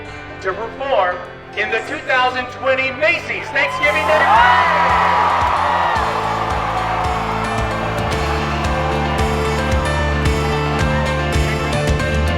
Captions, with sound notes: to preform in the 2020 Macy's Thanksgiving Day Parade! (cheering) (upbeat music)